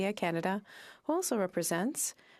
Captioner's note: french